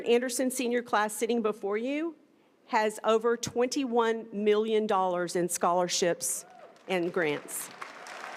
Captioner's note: applause